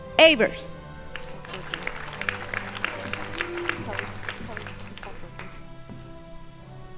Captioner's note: crowd applauding